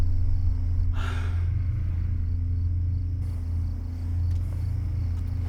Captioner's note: Brandy exhaling